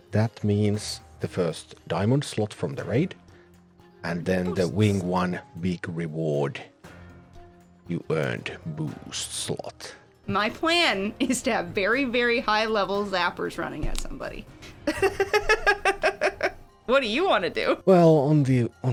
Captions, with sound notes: That means the first Diamond Slot from the raid. -"You earned Boost Slot." -And then the Wing 1 big reward. "You earned Boost Slot." My plan is to have very, very high-level Sappers running at somebody. [laughs] What do you want to do? Well, on the...